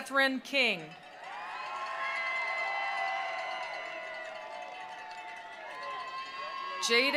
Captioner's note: attendees cheering; attendees applauding